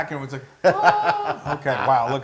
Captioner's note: laugh